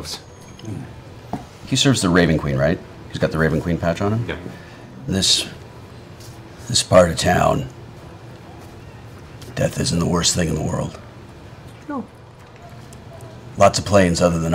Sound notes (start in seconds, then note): none